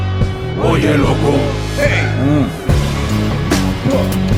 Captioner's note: non-english speech